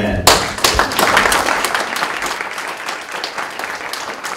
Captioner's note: applause